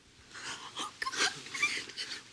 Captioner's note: crying